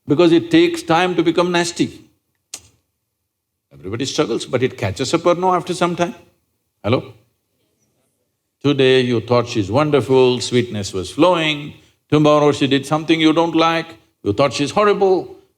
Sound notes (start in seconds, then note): none